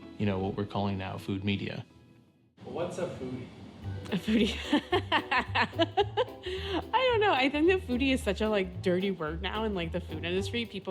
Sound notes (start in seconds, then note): 4.1 she laughs